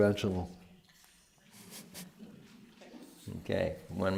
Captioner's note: laughs